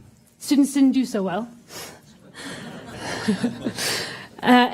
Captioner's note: laughter